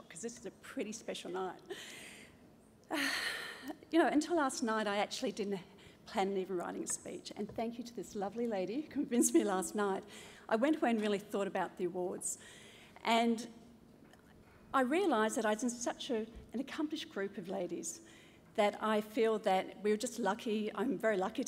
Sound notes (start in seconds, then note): 1.8 breathes deeply